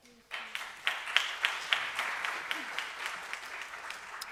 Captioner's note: audience applauds